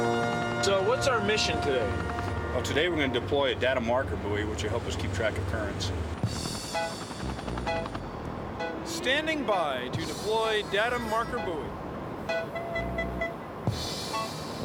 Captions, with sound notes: SO, WHAT'S OUR MISSION TODAY? TODAY WE'RE GONNA DEPLOY A DATA MARKER BUOY, WHICH WILL HELP US KEEP TRACK OF CURRENTS. STANDING BY TO DEPLOY DATA MARKER BUOY. [ BEEPING ]